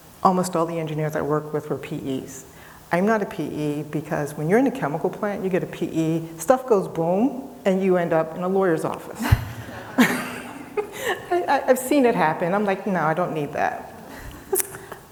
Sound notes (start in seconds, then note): 9.2 laughing